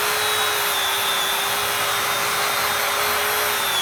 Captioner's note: sander buzzing